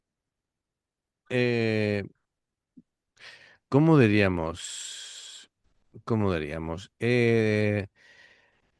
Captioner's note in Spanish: suspiro